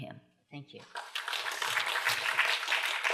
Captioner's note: applause